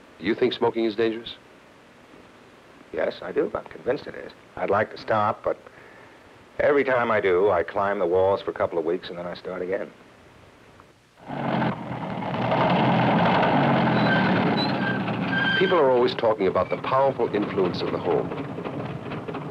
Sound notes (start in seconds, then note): 11.1 engine sputtering; 13.4 brakes squealing